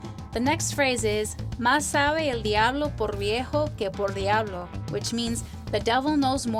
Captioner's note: foreign language